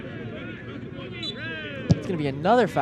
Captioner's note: whistle blows